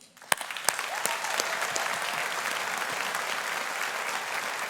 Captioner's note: audience applauding